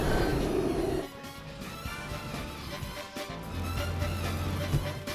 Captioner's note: grunting